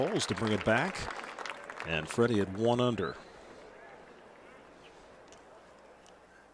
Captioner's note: applause